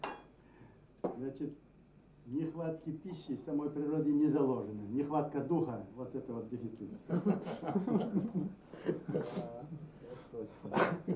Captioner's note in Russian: Смеются